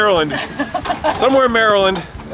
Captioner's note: laughing